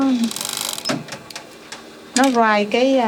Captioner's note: speaking in a foreign language; sewing machine vibrates; speaking in a foreign language